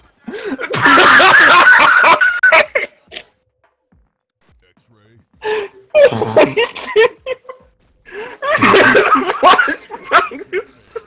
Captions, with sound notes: [INTENSE LAUGHING] Are you kidding me... he flashbanged himself...